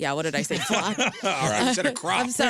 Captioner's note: laughter